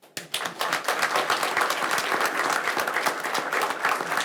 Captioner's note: audience applauds